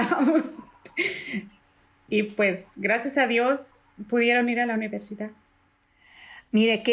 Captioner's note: laugh